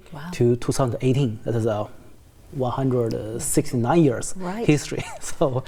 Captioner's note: laughs